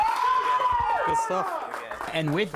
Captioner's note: crowd cheering and clapping